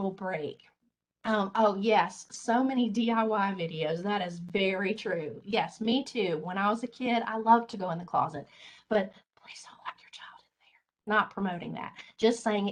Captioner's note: whispers